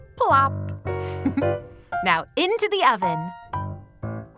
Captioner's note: giggles